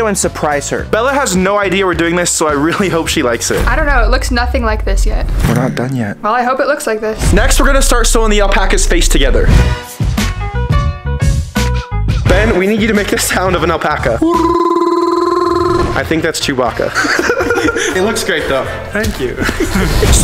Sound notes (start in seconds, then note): 9.5 upbeat funk music; 14.2 imitating alpaca